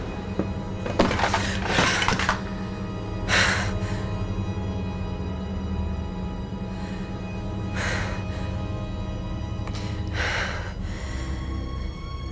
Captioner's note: heavy Breathing